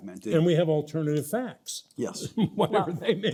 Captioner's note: chuckles